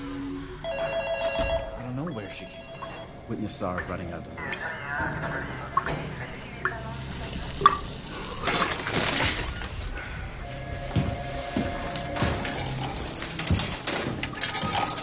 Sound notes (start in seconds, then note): 0.6 telephone rings; 4.6 water boiling, dripping; 8.4 chair creaks; 10.5 telephone ringing